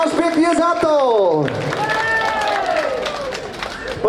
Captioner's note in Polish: oklaski